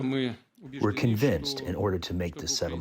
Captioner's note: through translator